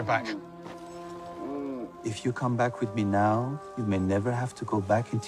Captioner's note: Valentine grunts